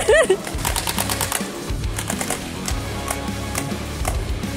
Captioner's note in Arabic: ضحك; البنادق تفرقع